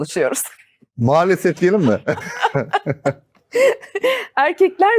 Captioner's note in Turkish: kahkaha